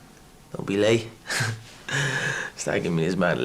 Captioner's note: chuckling